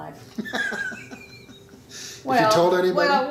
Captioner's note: laughing